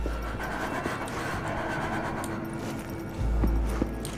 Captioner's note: rattling ghostly breathing